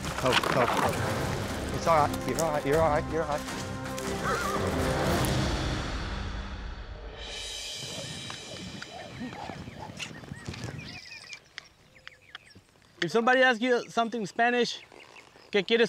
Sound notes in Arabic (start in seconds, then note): 4.2 صهيل الحصان; 7.4 تغريد الطيور